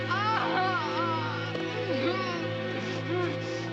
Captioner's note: shouting